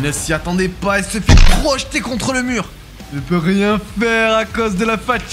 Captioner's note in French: ironique